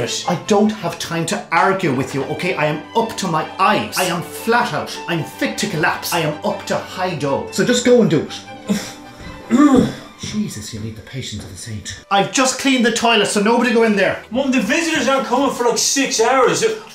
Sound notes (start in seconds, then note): 9.5 grunts